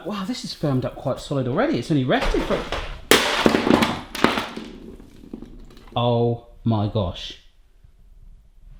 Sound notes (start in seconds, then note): 2.2 bang